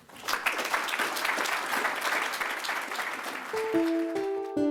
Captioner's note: attendees applauding; bright electronic music